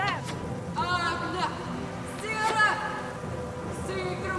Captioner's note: speaking foreign language